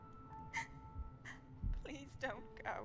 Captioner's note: sobs